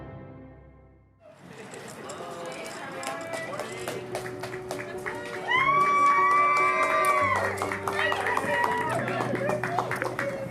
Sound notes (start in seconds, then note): 1.7 crowd applauding; 4.7 crowd cheering